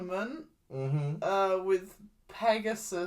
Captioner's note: you are correct noises